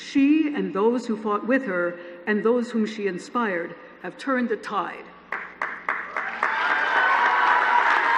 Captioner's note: applause